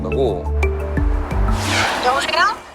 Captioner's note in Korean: 스윽